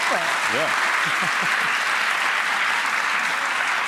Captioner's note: audience claps